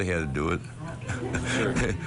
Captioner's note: laughs